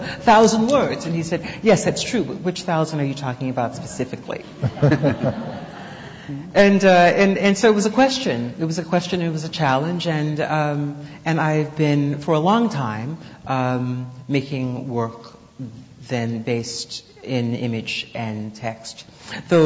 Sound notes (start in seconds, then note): 4.4 laughter